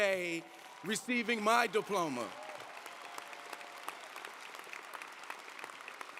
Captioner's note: audience applauding